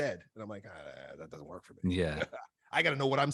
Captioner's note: chuckles